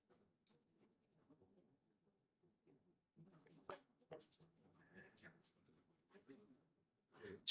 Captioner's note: silence